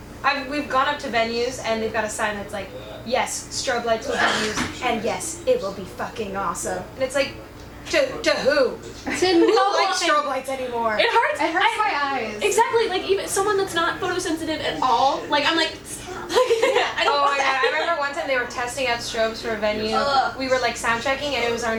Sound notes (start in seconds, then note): 16.1 laughing